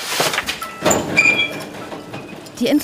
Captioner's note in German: Quietschen, Rattern